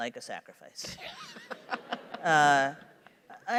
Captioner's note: laughter